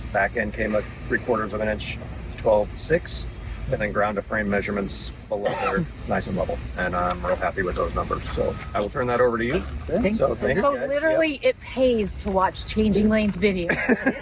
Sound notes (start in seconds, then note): 5.4 coughs; 8.0 paper flips; 13.6 laughs